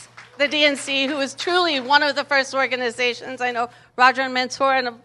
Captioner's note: applause